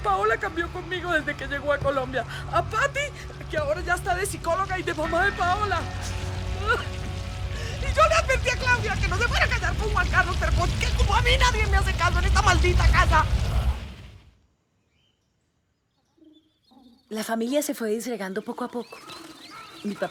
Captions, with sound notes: Paola treats me differently since she came to Colombia. Patty is almost a psychologist and pretends to be Paola's mom. [rainstorm] I warned Claudia about marrying Juan Carlos, but since nobody listens to me in this damn house... The family was disintegrating little by little.